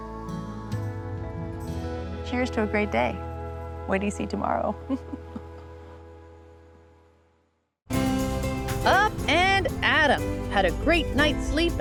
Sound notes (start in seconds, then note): 4.8 chuckles